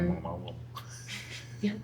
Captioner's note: laughing